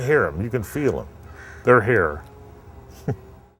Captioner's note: laughs